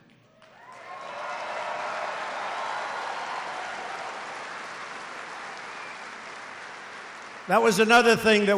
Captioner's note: applause